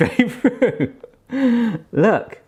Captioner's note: laughing